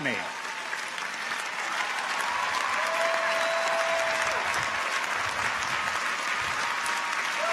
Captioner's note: audience applauds; audience cheers